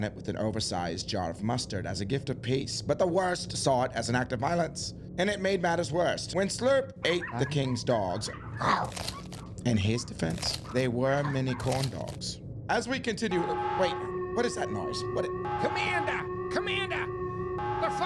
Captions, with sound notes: with an oversized jar of mustard as a gift of peace, but the worst saw it as an act of violence and it made matters worse. When Slurp ate the king's dogs, (dog barking) in his defense, they were mini corn dogs. As we continue, wait, what is that noise? - Commander, Commander, the